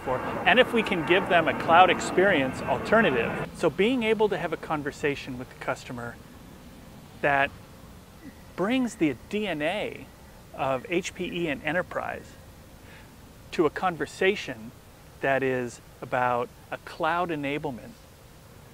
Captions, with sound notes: and if we can give them a cloud experience alternative. (plane engine roaring) So being able to have a conversation with the customer that brings the DNA of HPE and enterprise to a conversation that is about a cloud enablement